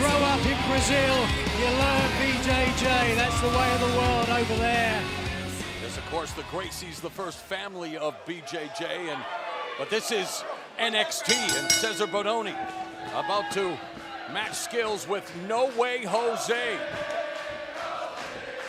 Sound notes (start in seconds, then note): 11.2 bell ringing